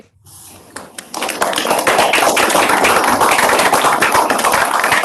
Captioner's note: audience applauds